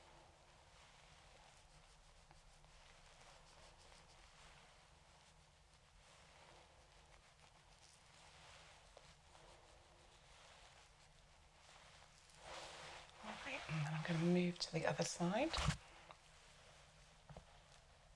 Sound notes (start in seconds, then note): 3.1 silence